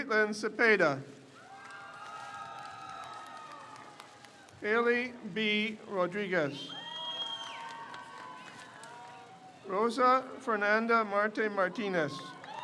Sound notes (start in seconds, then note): 1.3 crowd cheers; 6.5 crowd cheers